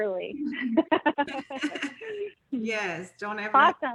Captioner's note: laughs